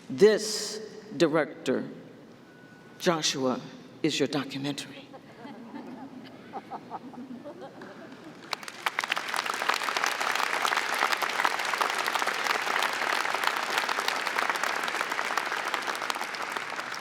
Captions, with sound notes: This, Director Joshua, is your documentary. (audience applauding)